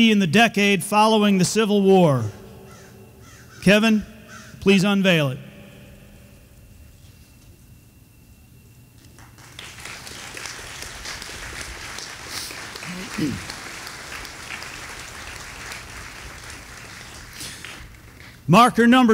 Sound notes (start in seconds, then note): 9.4 audience applauding